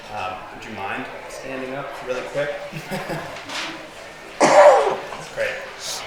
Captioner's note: chuckles